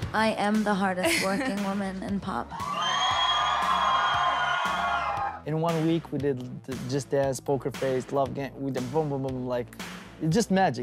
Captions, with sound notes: - I am the hardest, working woman in pop. (audience cheering) - In one week, we did Just Dance, Poker Face, Love Gang. We did, boom, boom, boom like, it's just magic.